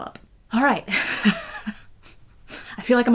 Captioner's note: laughs